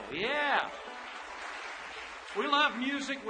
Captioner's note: audience applause